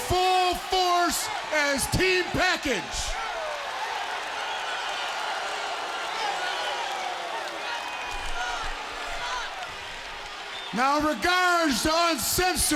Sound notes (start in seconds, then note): 3.5 crowd cheering